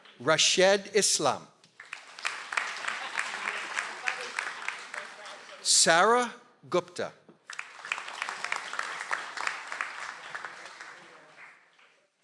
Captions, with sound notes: - Rashed Islam. (audience applauds) - Sarah Gupta. (audience applauds)